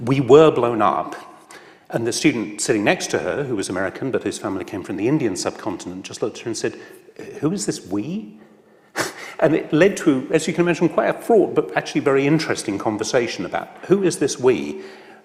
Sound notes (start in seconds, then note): 9.5 laughs